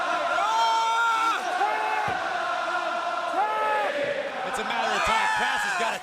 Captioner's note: crowd cheering